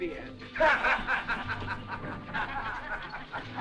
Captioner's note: laughter